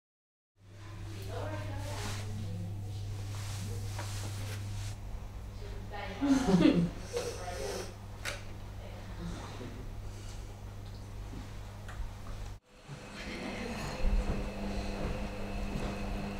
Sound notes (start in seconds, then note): 6.2 giggle